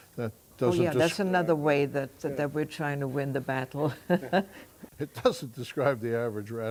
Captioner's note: laughs